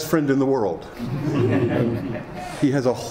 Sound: some laughing

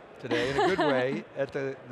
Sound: chuckling

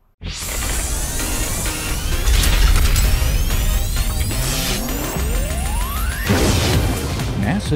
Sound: sound Effects

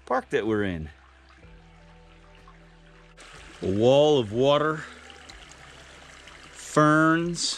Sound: rushing water

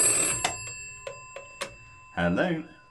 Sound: ring

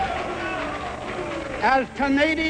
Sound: crowd jeering

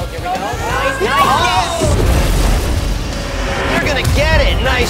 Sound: boys shout

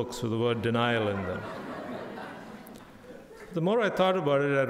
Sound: crowd laughing

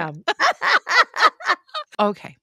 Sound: women laughing

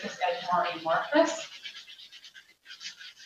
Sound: paper scratching

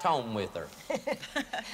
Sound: laughter

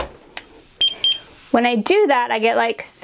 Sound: thermometer beeping

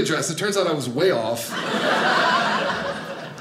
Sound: audience laughing

